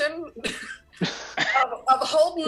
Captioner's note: cast chuckles